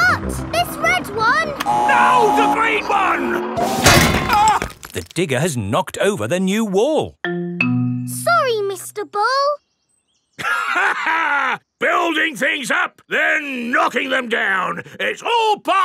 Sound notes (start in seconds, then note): 10.4 laughs